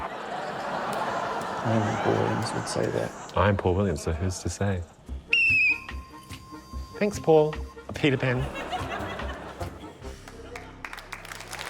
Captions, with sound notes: (LAUGHTER) - I don't think Paul Williams would say that. - I'm Paul Williams, so who's to say? (WHISTLE BLOWS) Thanks, Paul― Peter Pan.